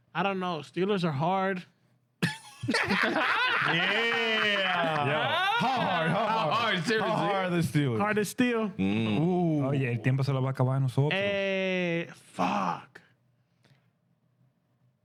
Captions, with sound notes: I don't know, Steelers are hard. (Laughing) Yeah. Yeah. Hard, hard. Hard, seriously. How hard is Steeler? Hard is Steel. (Speaking In Foreign Language) Fuck.